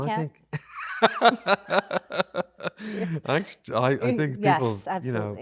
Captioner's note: both laughing